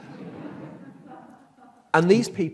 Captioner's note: audience laughs